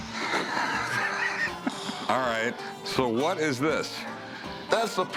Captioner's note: laughter